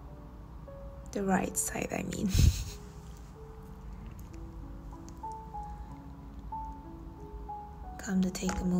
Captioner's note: chuckles